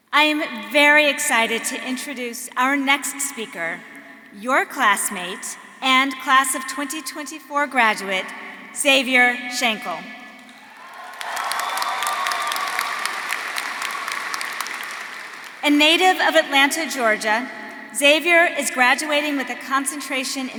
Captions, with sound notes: I am very excited to introduce our next speaker, your classmate and class of 2024 graduate Xavier Shankle. (audience cheering) (audience applauding) A native of Atlanta, Georgia, Xavier is graduating with a concentration